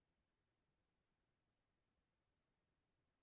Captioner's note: none